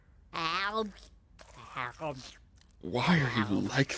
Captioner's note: slurping